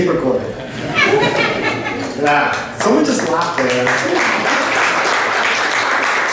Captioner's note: laughter and applause